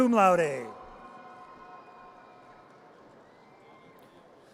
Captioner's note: audience cheers